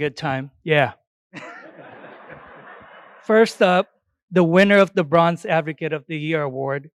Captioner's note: laughter